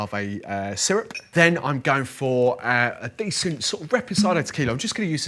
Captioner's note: speaks quickly